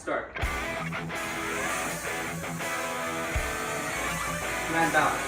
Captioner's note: drone whirring